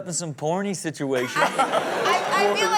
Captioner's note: crowd laughing